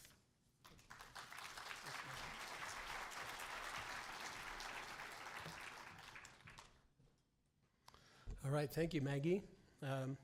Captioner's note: applause